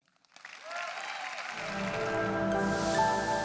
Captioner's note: audience applauds; calm music